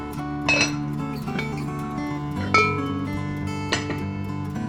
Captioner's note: pot lid clanking